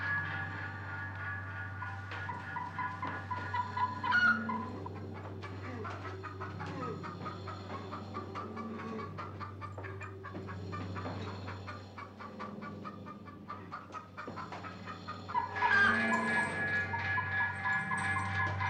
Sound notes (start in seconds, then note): 1.7 chicken clucking